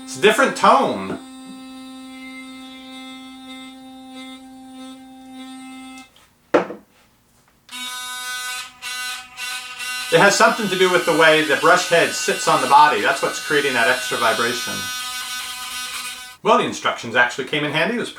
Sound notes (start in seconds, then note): 7.7 loud toothbrush motor buzzing; 15.3 loud buzzing